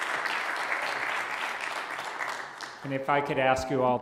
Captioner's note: applause